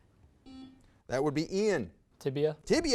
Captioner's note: buzzer buzzes